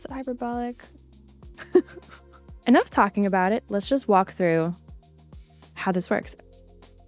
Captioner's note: laughs